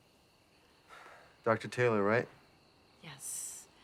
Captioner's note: sighs